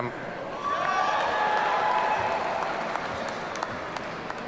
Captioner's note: audience cheering